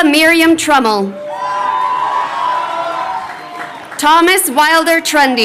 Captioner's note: crowd cheering